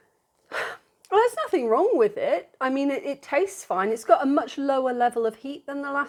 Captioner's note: sigh